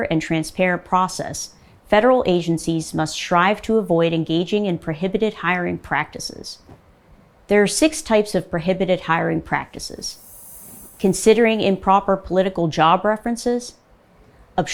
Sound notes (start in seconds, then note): 10.0 logo whooshing